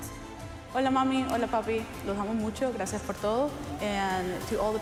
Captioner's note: speaker speaking Spanish